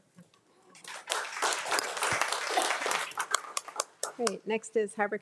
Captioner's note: crowd applauding